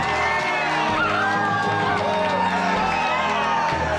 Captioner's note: people cheering